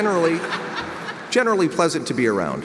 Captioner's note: audience laughs